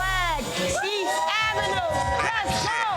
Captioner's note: crowd cheering